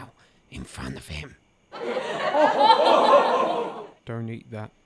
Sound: laughter

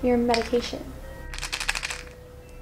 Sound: pills rattle

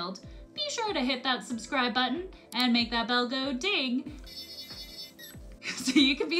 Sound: uses sonic screwdriver

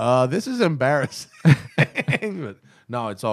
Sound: laughter

